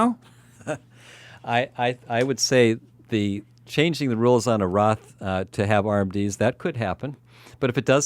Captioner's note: laughs